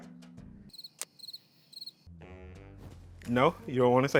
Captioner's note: crickets chirping